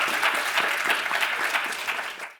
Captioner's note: audience applauding